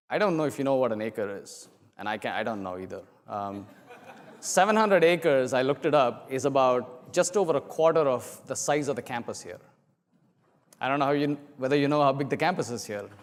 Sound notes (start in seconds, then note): 3.7 laugh